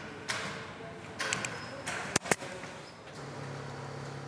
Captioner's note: gentle stapling